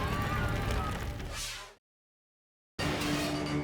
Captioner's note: air whooshes; dramatic music